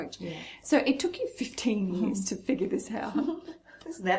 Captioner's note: laughs